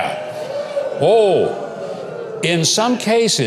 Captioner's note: audience groaning